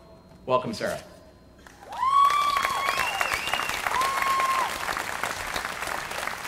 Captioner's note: applause